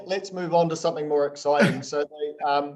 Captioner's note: coughs